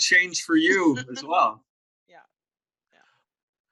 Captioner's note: laughs